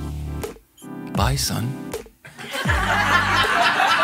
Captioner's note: laughing